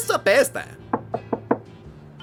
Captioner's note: knocking on the door